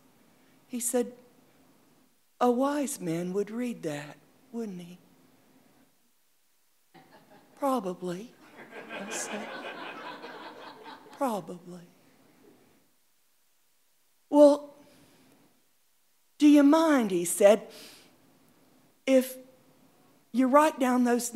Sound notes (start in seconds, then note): 8.4 audience laughing